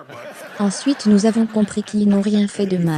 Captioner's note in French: des rires